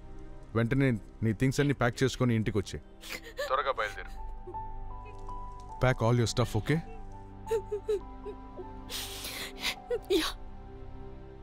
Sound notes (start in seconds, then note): 3.0 sobbing